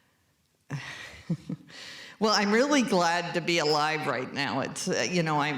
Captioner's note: chuckles